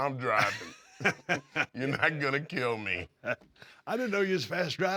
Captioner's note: laugh